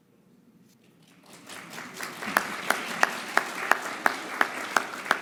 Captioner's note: audience applauding